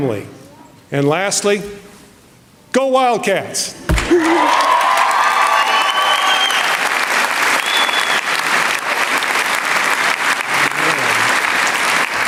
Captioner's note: applause